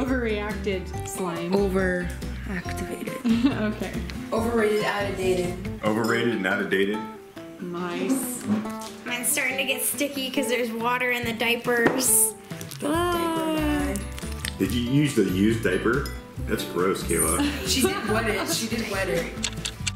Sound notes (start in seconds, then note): 3.2 laughs; 12.7 shrieking; 17.2 laughing